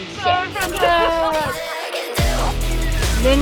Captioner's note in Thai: หัวเราะ